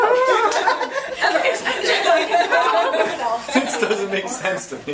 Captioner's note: laughs